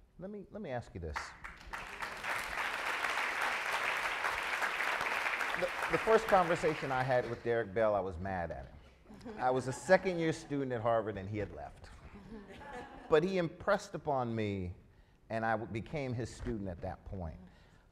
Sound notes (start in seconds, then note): 1.2 audience applauds; 9.2 audience laughs